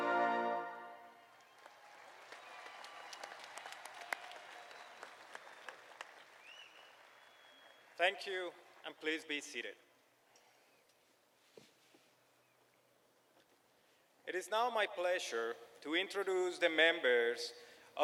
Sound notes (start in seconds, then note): 2.8 applause